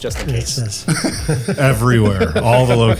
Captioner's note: laughs